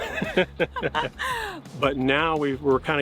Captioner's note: laughing